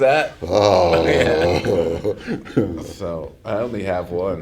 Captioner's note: laughter